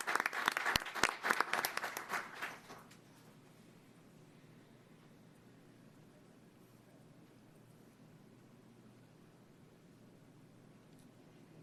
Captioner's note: applause